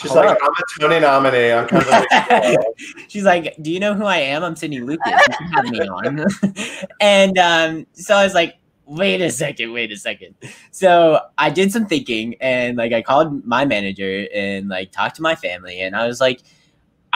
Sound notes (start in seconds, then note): 1.6 laughing; 4.9 laughing